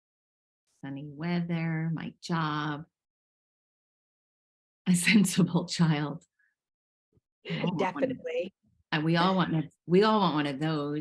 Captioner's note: laughing